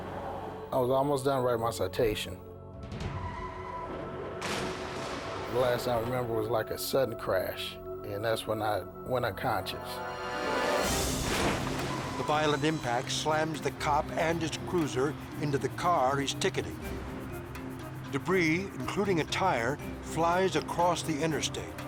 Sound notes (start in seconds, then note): 3.5 tires screeching